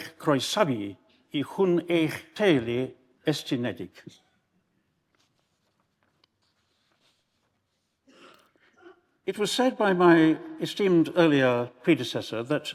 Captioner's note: speaking in Welsh